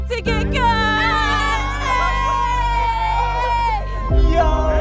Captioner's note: group cheering